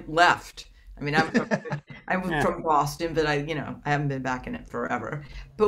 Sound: laughs

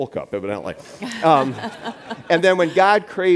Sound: audience laughs

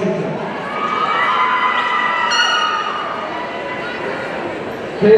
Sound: audience cheering

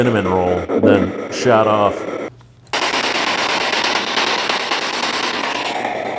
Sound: static signaling

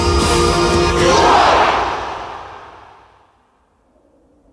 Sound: war cry!

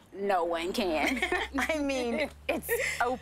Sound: laughing

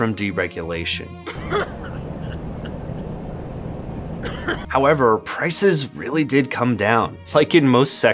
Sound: furious coughing in close proximity

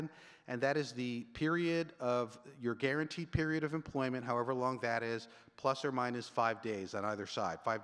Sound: none

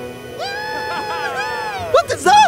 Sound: cheering

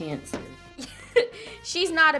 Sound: laughs

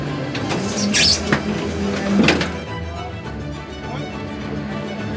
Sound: machinery squeaking

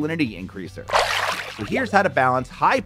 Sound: water splashing

